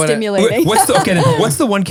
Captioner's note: laughing